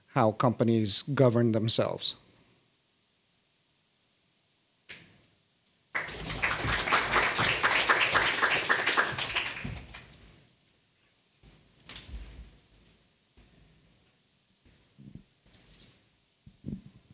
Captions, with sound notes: how companies govern themselves. (audience applauding)